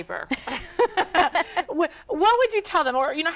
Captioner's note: both laughing